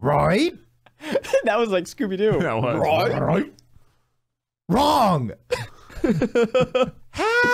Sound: laughs

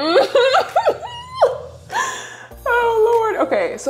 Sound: laughs

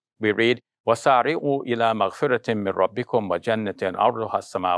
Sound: speaks arabic

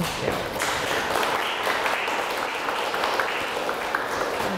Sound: audience applause

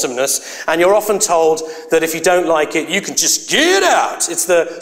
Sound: dialect

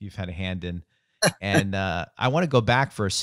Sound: laughs

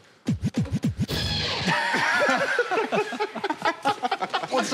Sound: laughter

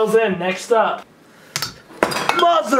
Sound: glass clatters

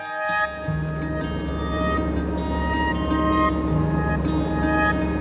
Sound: engine humming

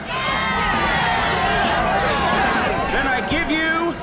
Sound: cheers

